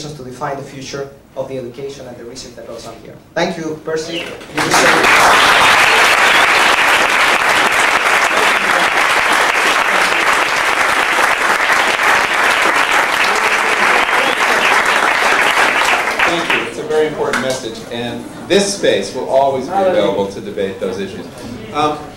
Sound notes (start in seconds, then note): 4.5 applause